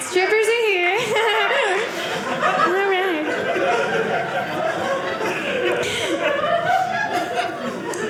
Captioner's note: audience laughing